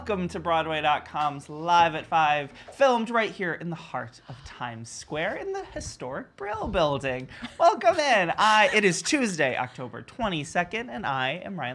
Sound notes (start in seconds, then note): 7.3 laughs